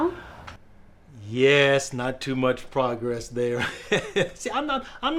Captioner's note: laughs